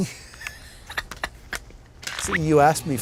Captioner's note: laughing